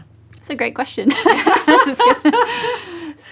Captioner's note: laughing